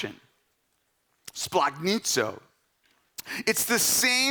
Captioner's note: speaking in Greek